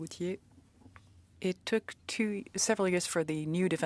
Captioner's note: speaking French